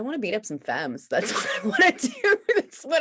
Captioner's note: laughs